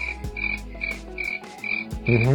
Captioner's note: crickets chirping